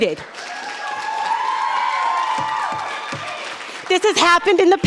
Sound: audience cheering

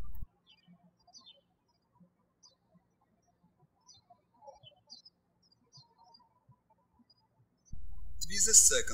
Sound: birds chirping

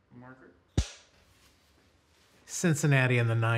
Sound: clapperboard claps

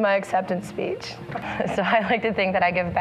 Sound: laughing

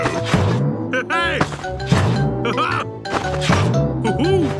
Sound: laughs

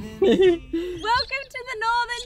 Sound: chuckles

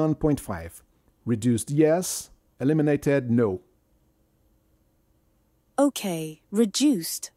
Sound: none

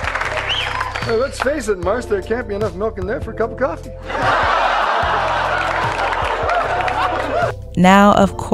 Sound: audience laughs; audience laughs

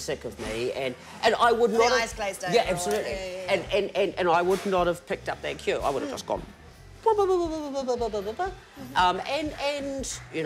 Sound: laughs

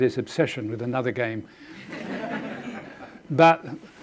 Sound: audience laughing

